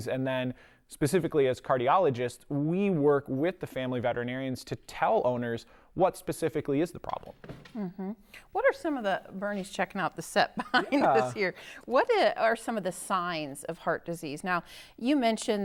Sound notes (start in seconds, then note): 10.7 laugh